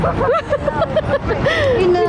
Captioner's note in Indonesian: Ketawa